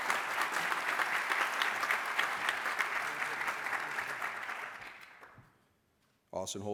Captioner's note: applause